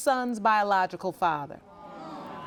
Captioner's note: audience murmuring